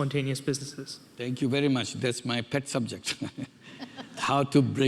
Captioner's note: chuckles